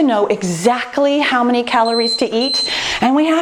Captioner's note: timer beeping